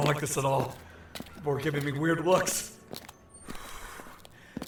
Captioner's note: pointed exhale